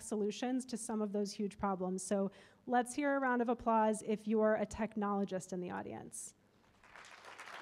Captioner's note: applause